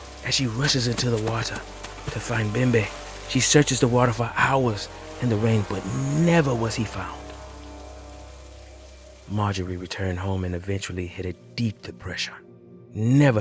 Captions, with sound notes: as she rushes into the water to find Bembe. [footstpes, water splashing] She searches the water for hours in the rain, but never was he found. [rain ceases] Marjorie returned home and eventually hit a deep depression, never